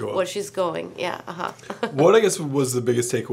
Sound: chuckles

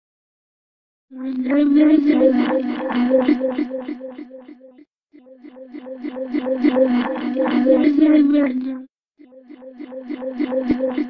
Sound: sci-fi noises

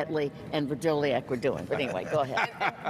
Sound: all laughs

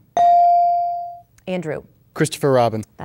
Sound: dinging

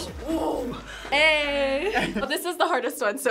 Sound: laughs

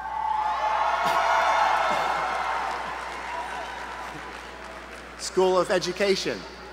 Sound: applause

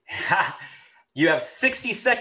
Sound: laughs

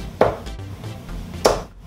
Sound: dart hitting board

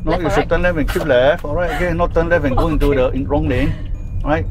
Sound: laughs

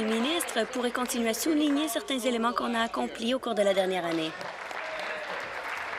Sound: applause

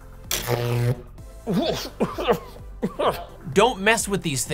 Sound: electricity Sounds; coughing

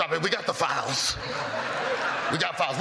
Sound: laughter

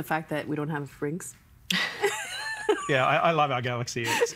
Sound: all laughing

